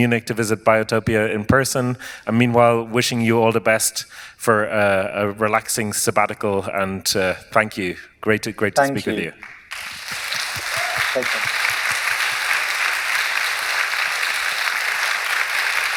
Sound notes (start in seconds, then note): 9.3 applause